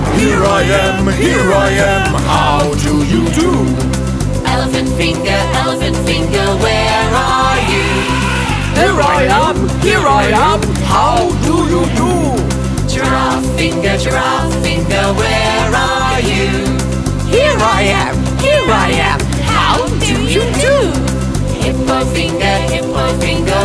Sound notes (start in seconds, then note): 7.6 elephant trumpeting